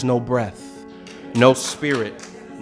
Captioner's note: applause